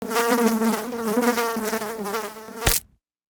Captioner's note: fly buzzing; fly splatting